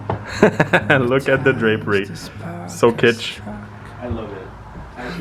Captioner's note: laughs